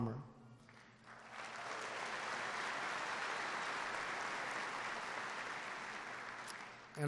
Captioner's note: applause